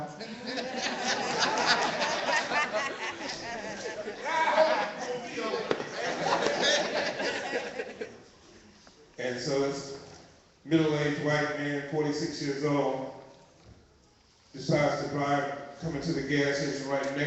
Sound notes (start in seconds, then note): 0.0 laughter